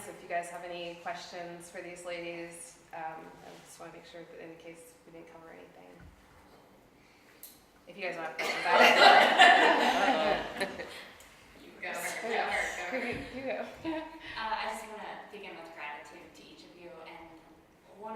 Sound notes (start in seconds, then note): 8.4 audience laughing